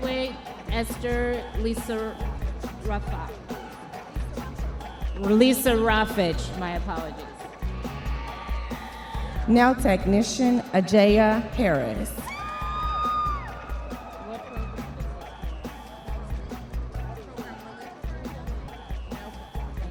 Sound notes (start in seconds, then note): 9.0 audience members cheering; 14.7 audience members cheering; 17.6 upbeat music